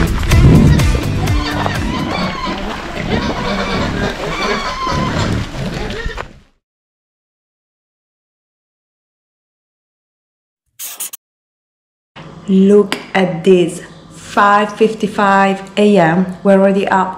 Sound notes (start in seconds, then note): 0.3 wild boars squealing; 10.8 marker scribbling